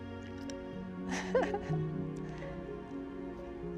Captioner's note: laughs